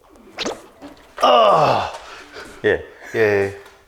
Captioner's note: grunts